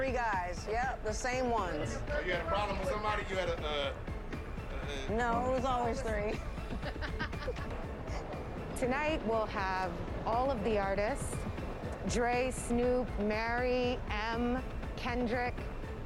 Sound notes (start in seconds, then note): 6.2 laughter